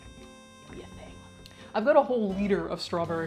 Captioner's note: whispers